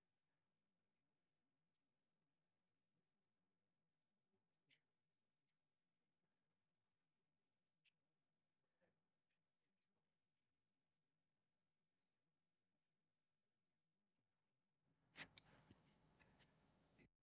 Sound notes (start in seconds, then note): 2.3 silence